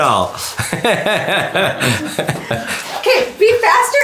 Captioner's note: laughs